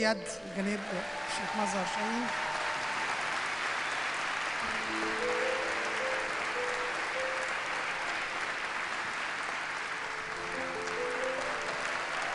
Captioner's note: applause and ululation